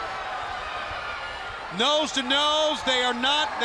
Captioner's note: crowd cheering